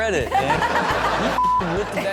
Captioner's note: crowd laughing